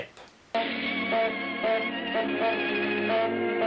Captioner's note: honking